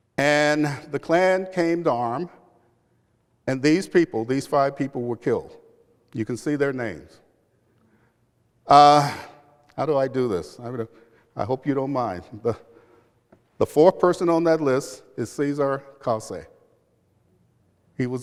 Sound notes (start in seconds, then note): none